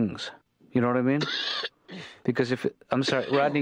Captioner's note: Rodney coughing